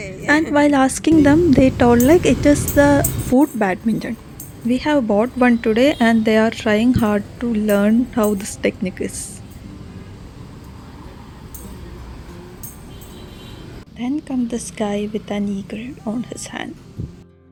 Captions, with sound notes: and while asking them, they told us it is "Foot Badminton" We bought that today, and they are trying to learn this new game [Sound of foot badminton playing & vehicles passing by] Then comes this guy, with an eagle in his hand!